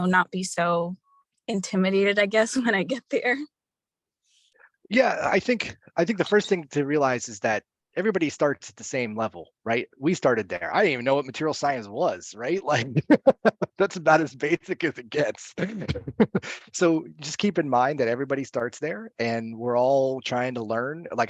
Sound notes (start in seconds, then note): 4.9 laughs; 12.6 laughs; 16.2 laughs